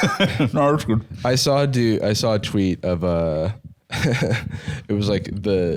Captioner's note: laughs